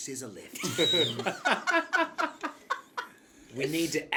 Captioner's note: laughs